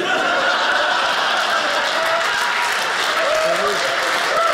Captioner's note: audience laughing; audience applauding